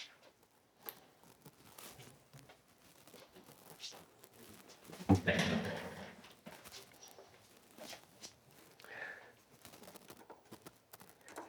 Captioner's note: silence